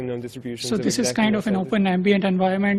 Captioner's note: voiceover